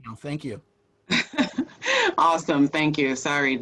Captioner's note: laughs